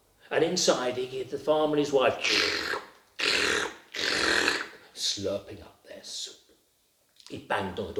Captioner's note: slurp noises